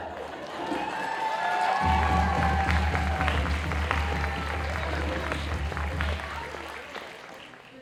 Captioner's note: cheers and applause